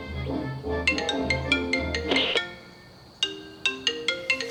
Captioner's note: phone ringing